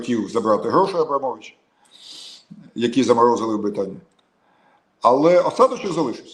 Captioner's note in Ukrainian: сопіння